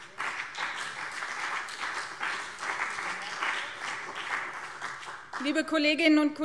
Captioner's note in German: Beifall BÜNDNIS 90/DIE GRÜNEN und CDU